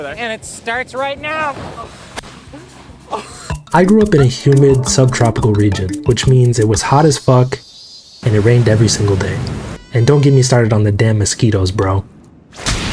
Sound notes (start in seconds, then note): 5.3 cicada crying; 8.2 rain pouring